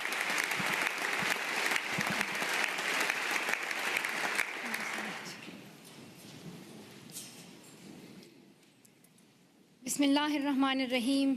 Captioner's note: applause